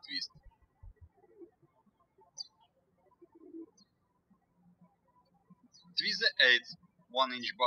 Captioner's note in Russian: птички щебечут